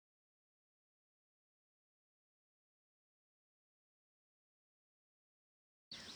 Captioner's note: silent credits